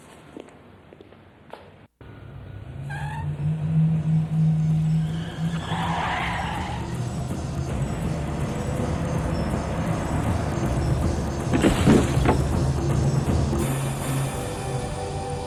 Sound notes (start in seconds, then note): 0.2 feet clacking; 3.2 tires screeching; 3.2 vehicle humming; 8.9 vehicle whirring; 11.3 dummy clatters; 11.6 glass shatters; 15.2 suspenseful music